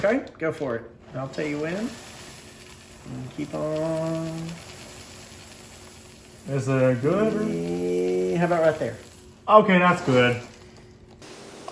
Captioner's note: pouring